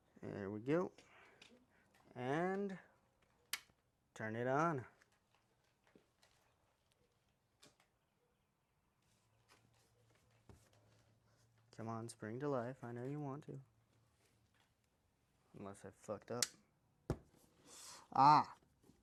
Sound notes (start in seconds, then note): 3.5 click; 6.1 silence; 16.4 click; 17.6 inhale of annoyance at ones' self